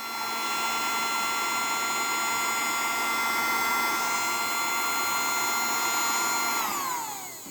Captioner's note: vacumm cleaner whirring